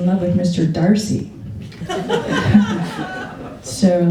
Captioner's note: laughter